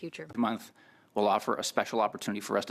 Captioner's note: speaking French